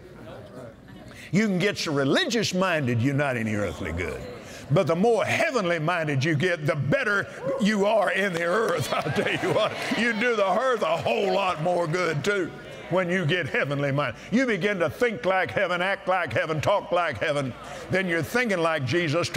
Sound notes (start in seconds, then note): 8.7 audience Agrees